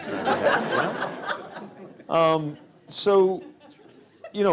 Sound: laughter

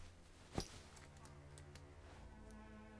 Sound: sounds from the street

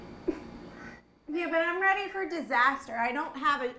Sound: laughs

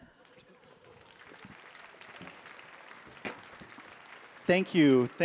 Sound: audience applauding

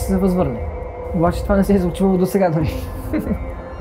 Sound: laughs

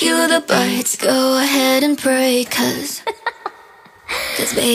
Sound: ha ha ha

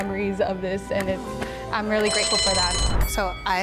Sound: bell ringing

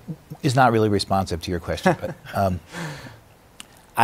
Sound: laughs

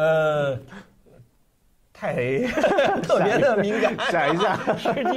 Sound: laugh

